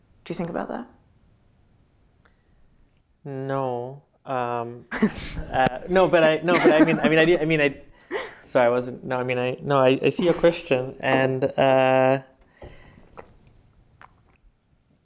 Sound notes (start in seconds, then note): 4.3 laughs; 6.5 laughter